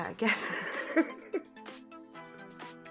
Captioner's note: laughing